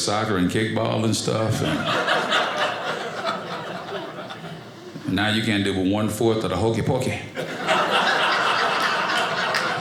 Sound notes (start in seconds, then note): 1.2 audience laughing; 7.3 audience laughing